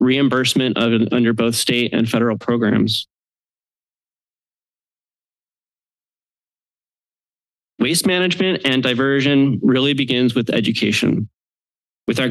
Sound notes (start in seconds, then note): 3.0 silence